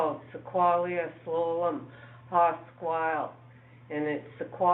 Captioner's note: speaking in foreign language